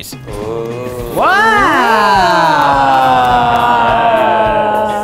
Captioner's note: sounds of amazement